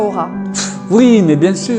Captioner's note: scoff